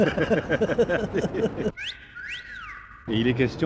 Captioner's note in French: rires; sifflement